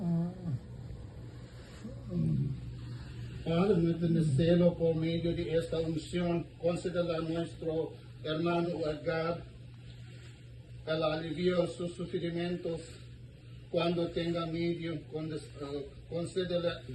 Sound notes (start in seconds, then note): 0.2 groans; 3.5 priest speaking in foreign language